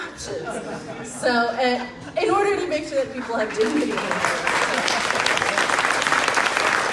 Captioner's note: crowd claps